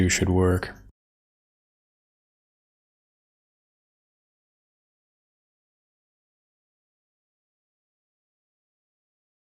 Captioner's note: blank Audio